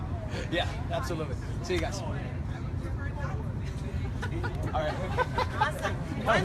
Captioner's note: laughter